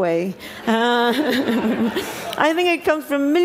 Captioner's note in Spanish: risas